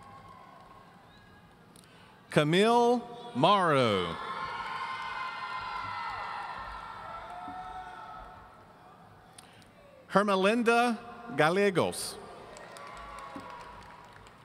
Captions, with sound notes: Camille Mauro. (audience cheering) Hermalinda Galiegos. (audience applauding)